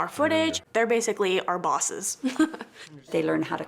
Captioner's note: laughs